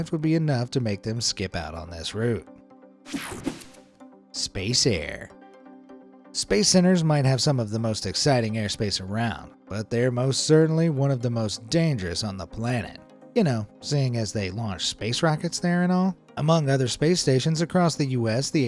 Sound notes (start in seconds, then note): 3.0 graphics whooshing